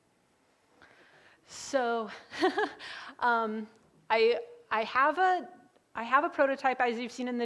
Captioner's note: laughs